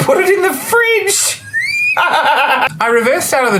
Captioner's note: laughs